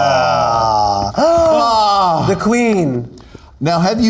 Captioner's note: both gasping